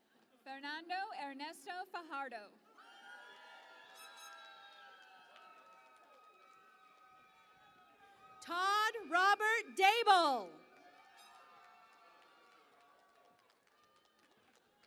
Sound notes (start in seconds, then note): 2.9 cheering and Applause; 11.9 cheering and Applause